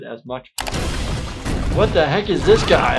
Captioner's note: boulder rolling